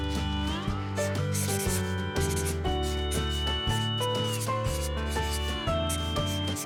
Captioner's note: gentle country music; marker scratching